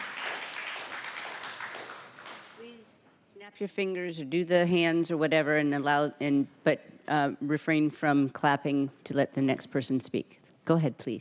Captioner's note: applause